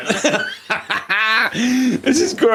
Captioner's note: laughs